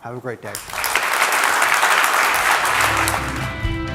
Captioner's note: applause; pop rock music